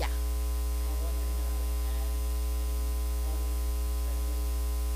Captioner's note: speaking faintly